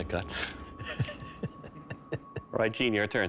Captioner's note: laughs